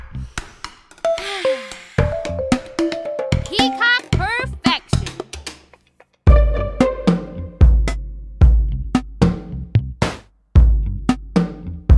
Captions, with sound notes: (toy sighs) Peacock Perfection. (upbeat music)